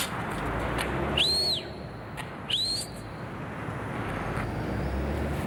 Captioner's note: Andy whistling